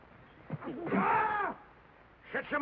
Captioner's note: Finley yells